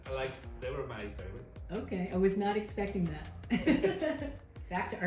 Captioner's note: laughs